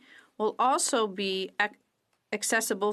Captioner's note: speaking French